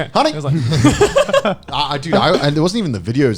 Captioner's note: laughing